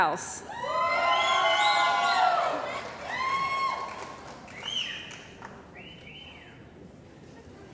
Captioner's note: cheering & Applause